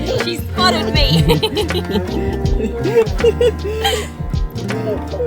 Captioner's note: laugh